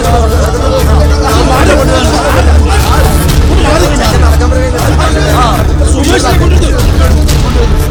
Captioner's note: babble of voices